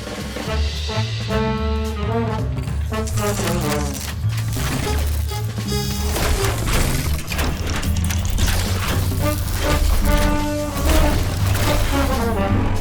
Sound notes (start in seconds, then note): 2.7 machines whirs; 2.9 electricity crackles